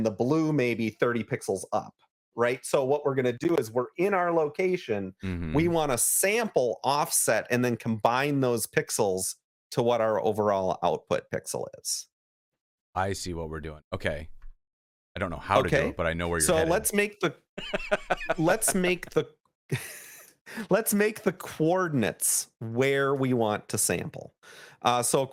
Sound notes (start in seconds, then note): 17.6 laughter